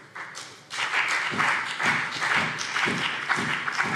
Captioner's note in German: Beifall BÜNDNIS 90/DIE GRÜNEN und CDU